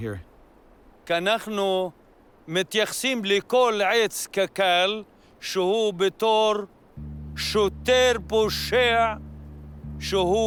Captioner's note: speaks Arabic